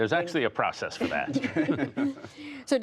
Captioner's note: laughter